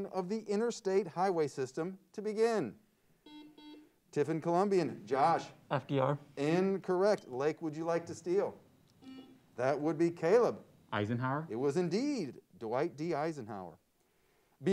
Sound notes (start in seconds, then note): 3.2 buzzer sounds; 9.0 buzzer sounds